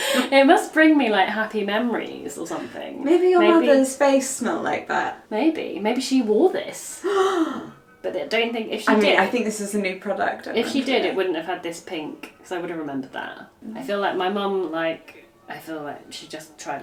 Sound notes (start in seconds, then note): 7.0 gasps